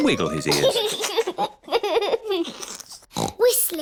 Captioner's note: giggles; snorts